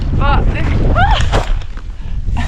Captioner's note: doof!